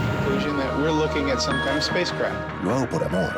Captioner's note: man on radio